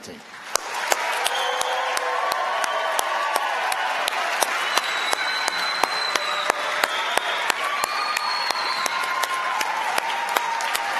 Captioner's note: applause